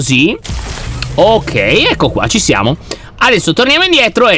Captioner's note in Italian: rumore di elettricità